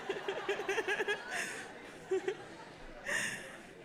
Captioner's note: all laughing